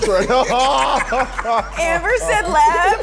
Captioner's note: everyone laughs